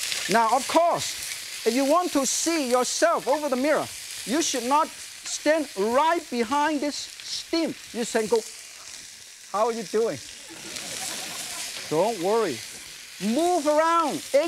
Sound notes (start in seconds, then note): 10.3 audience chuckles